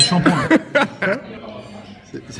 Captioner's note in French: rire